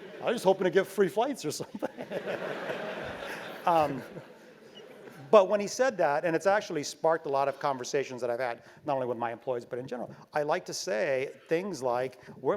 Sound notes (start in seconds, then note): 1.6 laugh